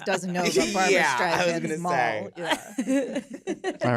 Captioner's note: laughter